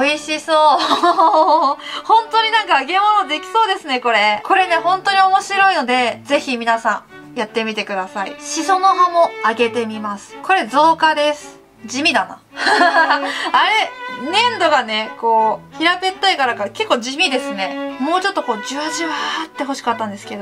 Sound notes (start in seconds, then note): 12.5 laughs